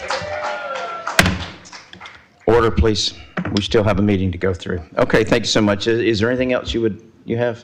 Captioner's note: applause